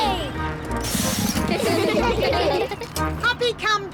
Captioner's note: all giggling